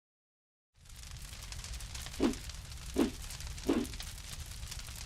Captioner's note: fire crackling